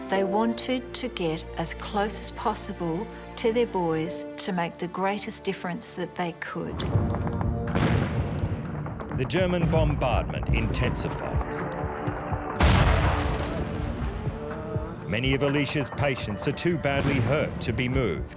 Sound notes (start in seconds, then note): 6.8 explosions; 11.8 suspenseful music; 12.5 explosions; 14.0 patients moaning